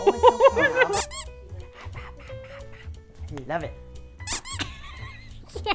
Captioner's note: baby wails; baby talk gibberish